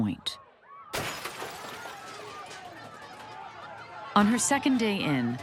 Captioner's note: glass shatters, shouting continues